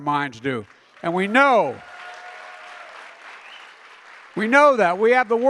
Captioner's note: applause